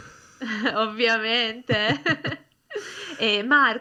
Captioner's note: laughs